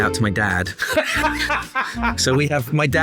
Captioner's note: laughing